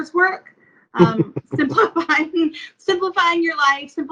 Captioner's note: laughs